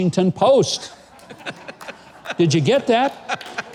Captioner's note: audience laughing